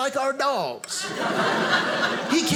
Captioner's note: audience laughing